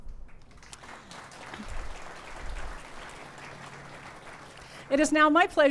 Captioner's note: clapping